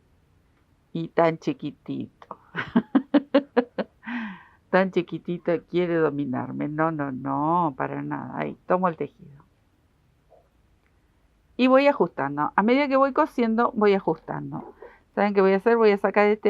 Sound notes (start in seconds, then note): 2.5 laughs